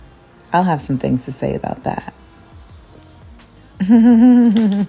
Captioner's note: chuckles